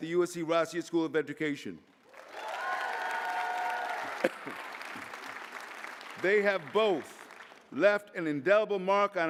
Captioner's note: applause